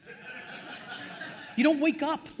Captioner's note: attendees laughing